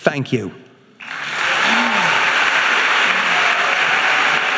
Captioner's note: audience applauding